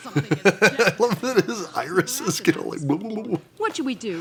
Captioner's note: wobbles verbally